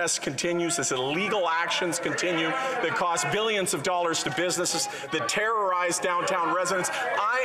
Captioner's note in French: voix de l'interprète